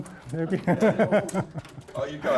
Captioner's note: laughing